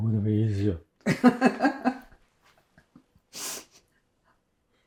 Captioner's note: laughing